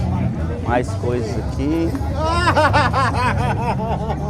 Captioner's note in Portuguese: risadas